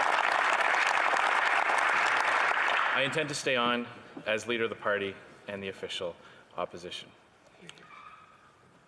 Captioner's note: some Applause